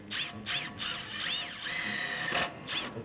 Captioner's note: drill whirring